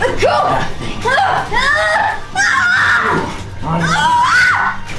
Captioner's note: screaming